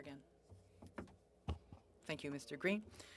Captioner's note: speaking French